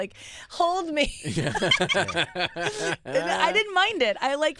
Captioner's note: laughing